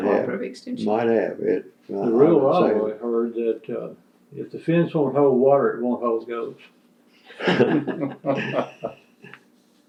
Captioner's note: laughter